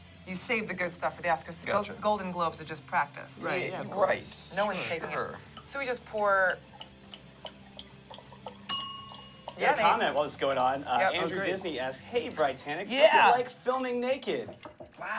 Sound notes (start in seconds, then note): 8.7 bell dings